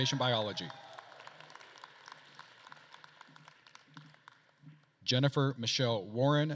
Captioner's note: attendees cheering and applauding